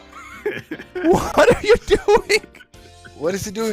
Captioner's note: laughing